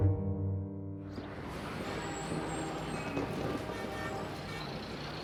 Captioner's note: car horns honking